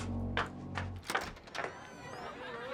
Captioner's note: door opens